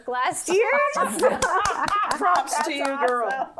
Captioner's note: laughing